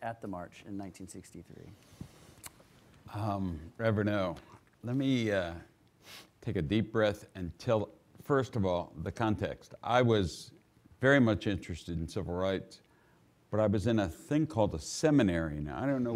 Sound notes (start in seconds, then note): none